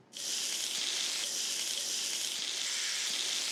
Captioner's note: meat sizzles